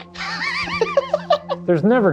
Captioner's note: laughing